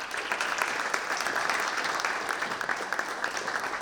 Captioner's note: audience claps